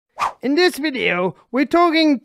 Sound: screen wipe whooshes

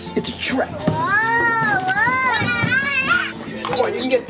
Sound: kid screaming

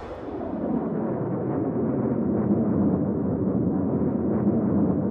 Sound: air whooshing; rocket whooshing

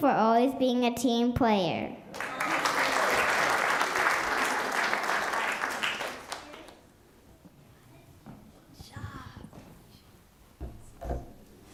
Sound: applause

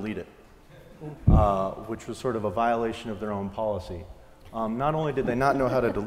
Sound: laugh

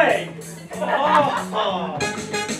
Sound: audience laughter

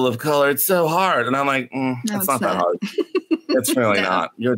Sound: laughs

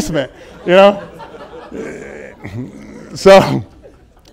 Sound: laughter and chuckling

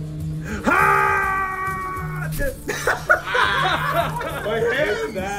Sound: laugh

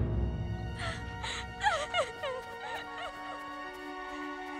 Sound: crying

